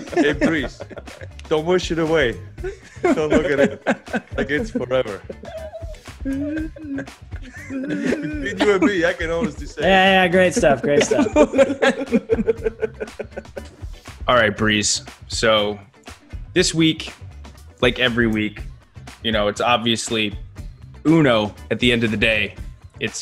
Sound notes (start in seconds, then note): 2.4 laugh; 7.3 laugh; 12.6 laugh